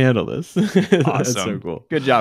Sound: both chuckling

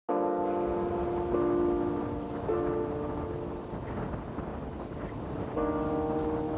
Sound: soft music; waves crashing

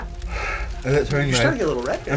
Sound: exhales deeply

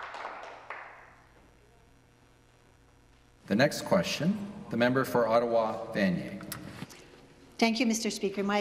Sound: applause

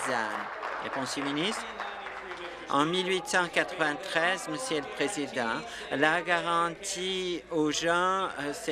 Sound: applause

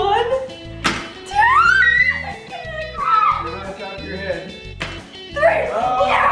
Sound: screams

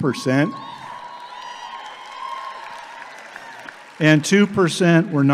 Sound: audience applauding

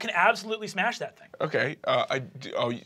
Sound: stutters

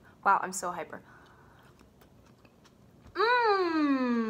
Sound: chews

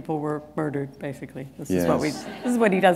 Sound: laughter

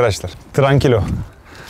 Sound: calm in Spanish

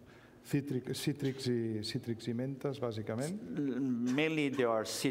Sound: speaking catalan

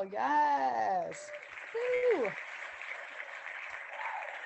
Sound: clapping hands

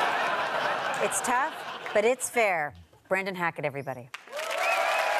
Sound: audience laughter

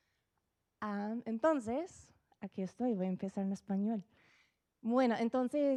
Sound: speaking Spanish

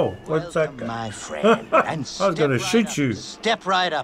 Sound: chuckles

